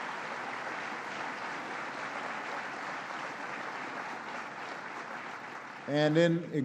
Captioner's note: applause